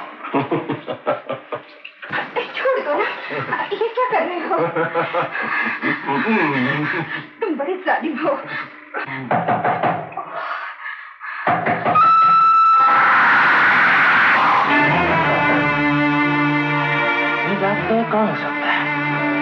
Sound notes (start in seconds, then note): 0.1 Laughing; 9.2 Knock On Door